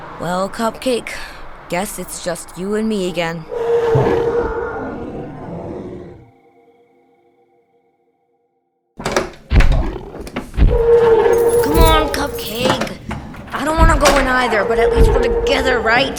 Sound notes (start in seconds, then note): 3.4 Cupcake roars; 9.0 Door opening, Cupcake roars; 16.0 Cupcake roars